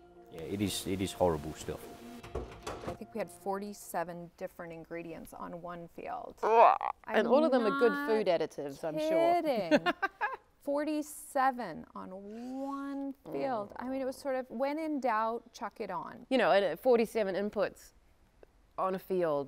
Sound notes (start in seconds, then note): 6.4 audible groan; 9.6 laughter